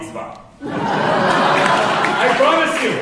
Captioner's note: laughing